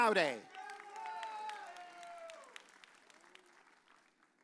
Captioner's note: audience cheers